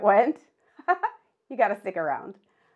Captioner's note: laughing